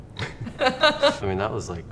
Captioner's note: both laugh